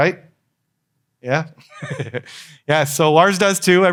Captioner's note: laughs